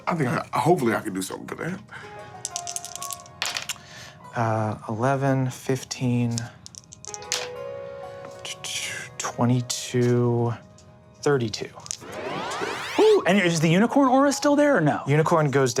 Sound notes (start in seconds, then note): none